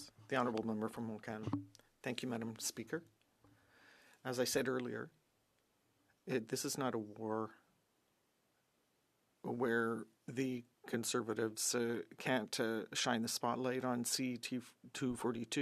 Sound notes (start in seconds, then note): 2.8 speaking French